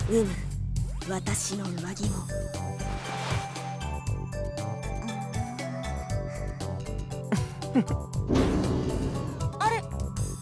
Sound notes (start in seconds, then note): 0.3 whisper; 7.2 chuckle